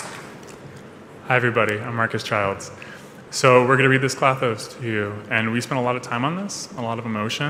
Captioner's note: cheers and applause